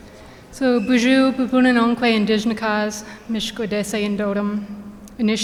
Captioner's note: speaking in foreign language